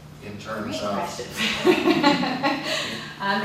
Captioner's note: laughs